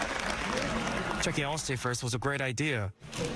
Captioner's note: applause